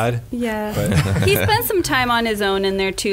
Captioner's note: laughs